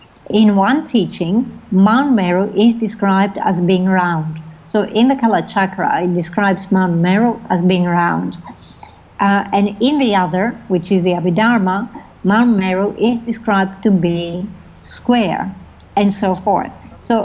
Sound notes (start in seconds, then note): 5.2 foreign language; 12.7 foreign language